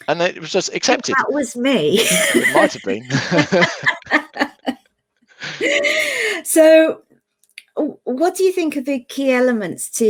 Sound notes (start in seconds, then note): 1.9 both laughs